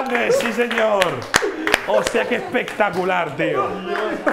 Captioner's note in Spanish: aplauden